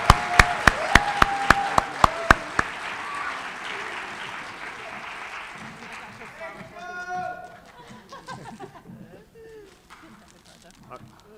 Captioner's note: applause